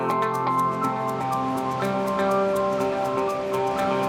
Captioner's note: water rushing